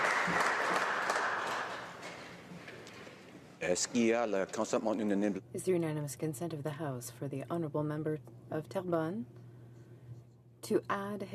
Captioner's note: applause